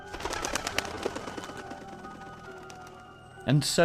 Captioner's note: wings fluttering